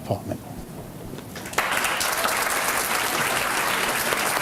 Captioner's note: applause